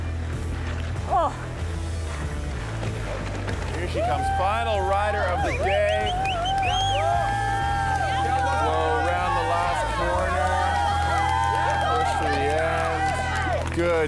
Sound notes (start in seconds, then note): 6.5 all cheering; 10.8 all cheering